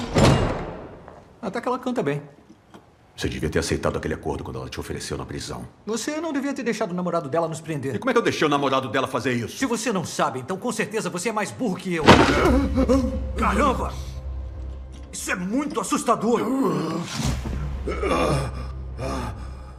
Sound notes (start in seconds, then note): 12.1 screams; 16.1 groaning